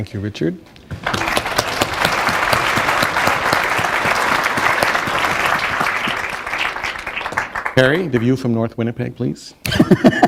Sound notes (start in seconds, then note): 3.3 applause; 9.6 laughter